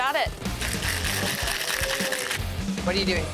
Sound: ice clattering

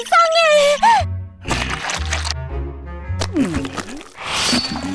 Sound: paint squelches

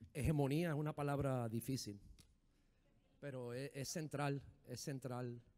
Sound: speaking in foreign language

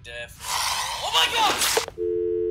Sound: Squelch; Ghoul growls; dialtone

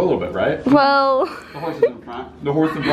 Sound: laughs

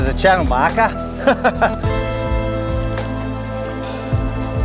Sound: laughs

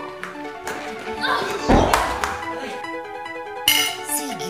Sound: Gabby grunts

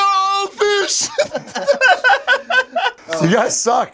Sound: laughter

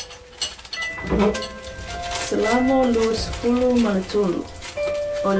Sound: eerie dramatic music; speaking in Samoan; eerie dramatic music

